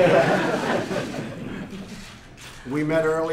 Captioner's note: laughter